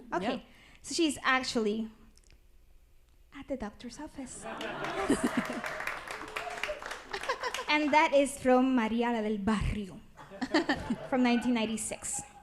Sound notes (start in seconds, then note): 4.5 applause